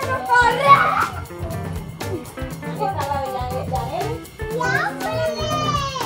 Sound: jazz music; excited children, foreign language

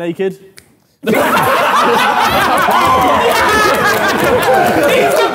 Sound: Sidemen laughing

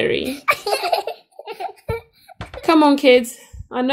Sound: children laugh

